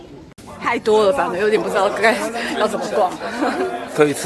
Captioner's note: laughs